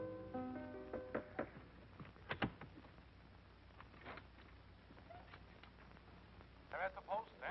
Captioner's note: knocking